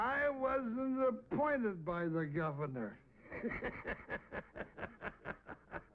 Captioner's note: laughs